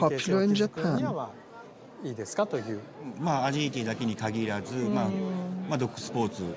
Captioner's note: speaking Japanese